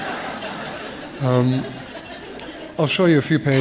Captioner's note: laughter